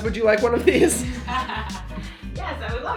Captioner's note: laughter